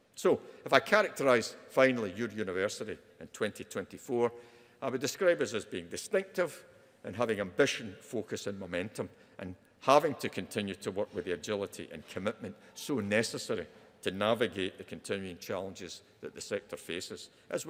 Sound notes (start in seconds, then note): none